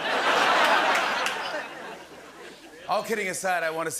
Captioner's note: laughter